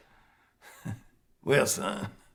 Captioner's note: chuckles